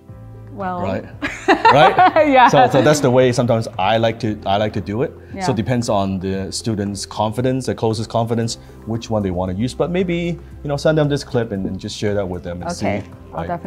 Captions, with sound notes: - Well. - Right? Right? - Yeah! (laughter) - So that's the way sometimes I like to do it. So, it depends on the student's confidence, the closer's confidence, which one do you want to use. But maybe, send them this clip and just share that with them and see.